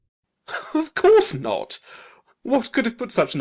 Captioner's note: laughing